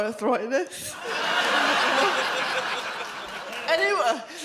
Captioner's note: audience laughs